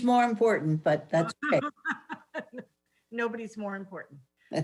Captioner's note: laughs